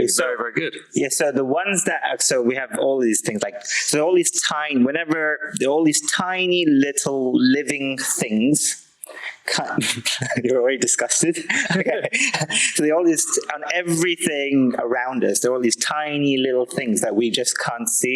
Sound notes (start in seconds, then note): 11.3 laughing